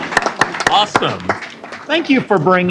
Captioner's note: applause